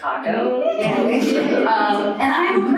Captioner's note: audience cheering